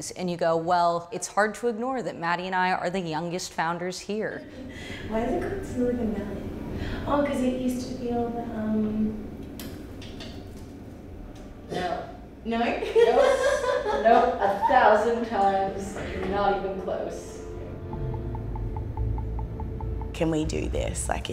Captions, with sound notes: and you go, "Well, it's hard to ignore that Madi and I are the youngest founders here. - Why is it called Silicon Valley? Oh, cause it used to build the ... - No. - No? (laughs) - Nope. Nope. A thousand times not even close. (tense music) - Can we do this?